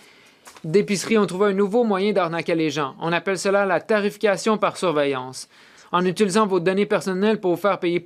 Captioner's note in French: voix de l'interprète